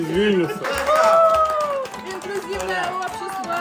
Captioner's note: clap hands